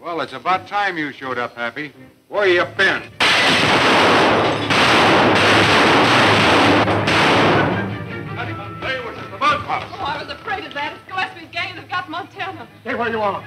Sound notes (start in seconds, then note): 3.2 crashing; 3.2 gunshots firing; 3.7 fast tense music